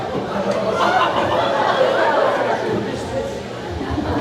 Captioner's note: crowd ahhing; crowd laughing; crowd chattering